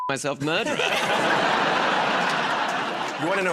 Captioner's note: laughter